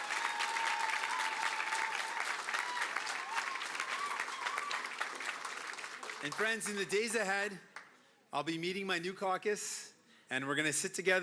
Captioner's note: cheering and Applause